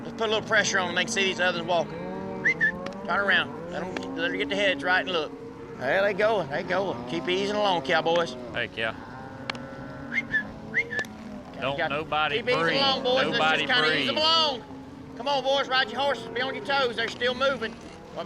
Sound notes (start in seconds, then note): 2.4 whistles; 10.7 whistles